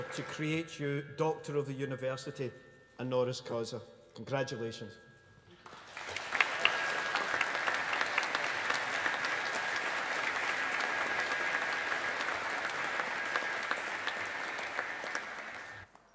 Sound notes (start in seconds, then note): 6.1 audience applauding